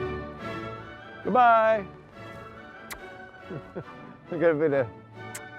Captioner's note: kissing; kissing